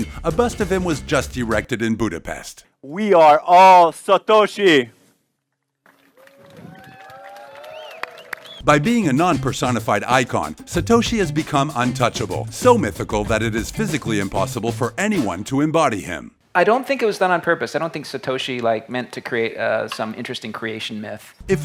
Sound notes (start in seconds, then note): 6.1 applause